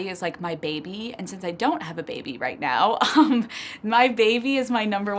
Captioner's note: chuckles